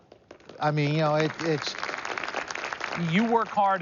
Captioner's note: applause